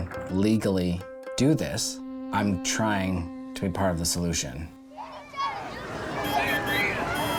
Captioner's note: horns honking; people chattering